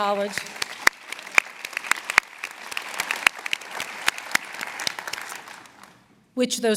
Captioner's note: applause